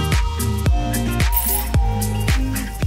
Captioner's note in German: Klingeln